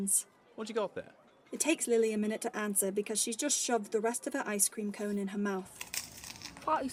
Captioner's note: crunching